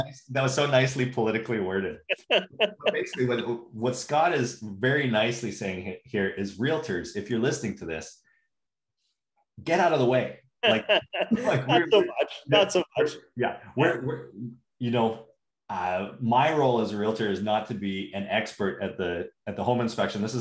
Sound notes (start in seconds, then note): 10.6 laughing